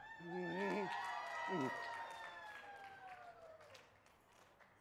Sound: crowd cheering

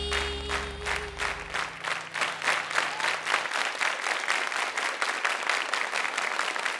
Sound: applause

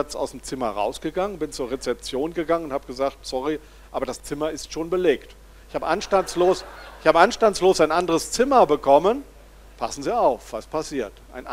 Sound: laughter from the audience

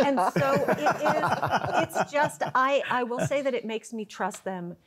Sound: laughter

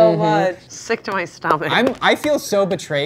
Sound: rhythmic patting

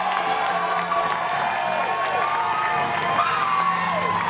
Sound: upbeat piano music; cheering and applauding

